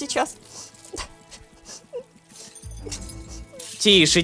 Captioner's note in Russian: Тихий плач Хануф